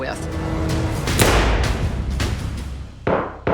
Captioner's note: gunshots